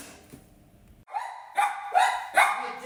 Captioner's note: more doggo barks for dinner